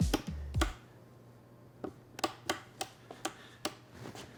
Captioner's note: buttons clicking